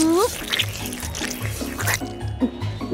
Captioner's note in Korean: 후루룩 짜장면 먹는 소리; 우물우물 씹는 소리